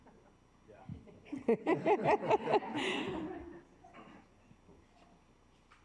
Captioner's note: assembly chuckling